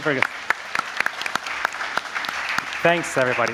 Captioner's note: applause